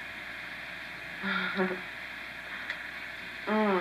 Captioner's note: laughs